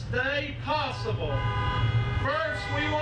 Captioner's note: horns honking